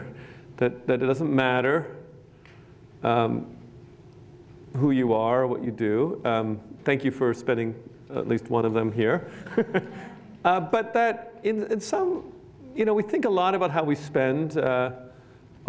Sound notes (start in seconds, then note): 9.3 laughs